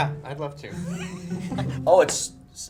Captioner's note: laughs